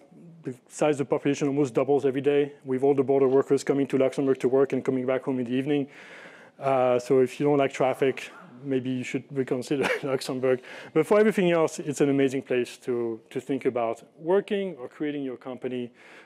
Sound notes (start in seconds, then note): 9.8 chuckles